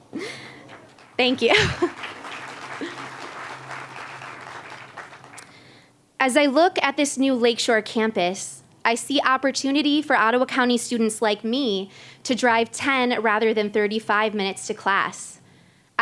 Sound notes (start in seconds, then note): 0.2 applause